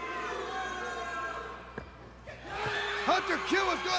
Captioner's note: crowd cheering